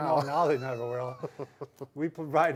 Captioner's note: laughs